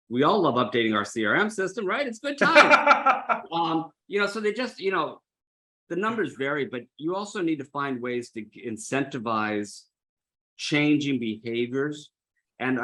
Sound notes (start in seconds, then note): 2.4 laughs